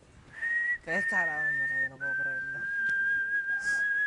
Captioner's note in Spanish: Silbidos